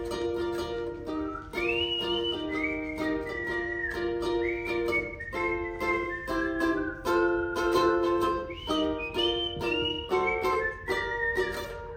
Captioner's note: whistling